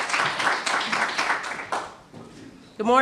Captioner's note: applause